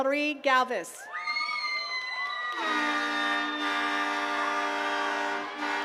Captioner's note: attendees cheering and clapping